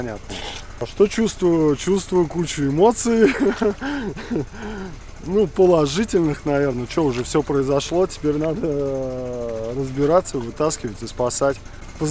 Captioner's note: laughs